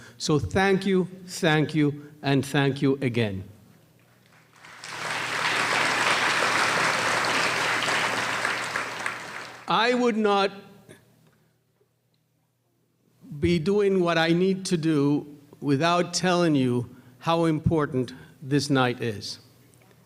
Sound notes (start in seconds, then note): 4.0 applause